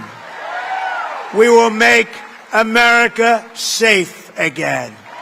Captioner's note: applause